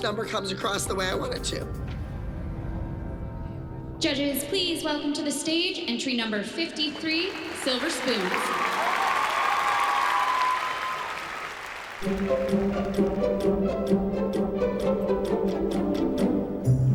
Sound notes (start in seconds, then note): 8.5 cheering and applause